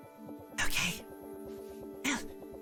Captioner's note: whispered